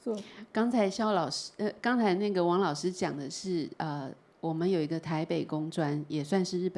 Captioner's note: Mandarin